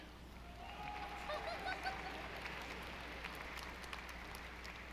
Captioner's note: audience applauding